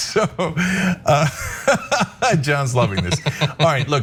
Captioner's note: laugh